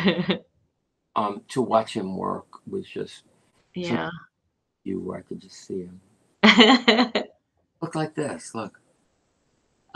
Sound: laughter

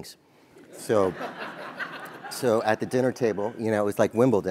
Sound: laugh

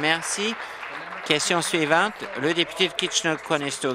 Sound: applause

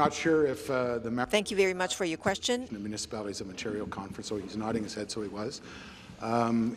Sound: speaking in French

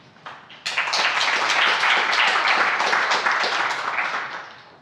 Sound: audience applauds

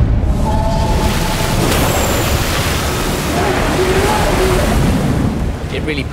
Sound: water rushing

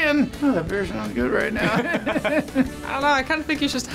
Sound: both laugh

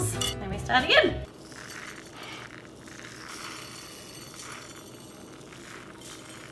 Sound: sprinkles jingling on plate

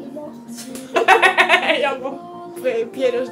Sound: weird laugh

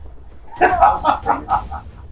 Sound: Billy Butcher cackles

